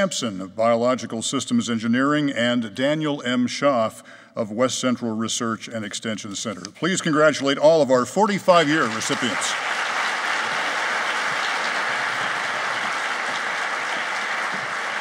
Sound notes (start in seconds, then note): 8.5 applauding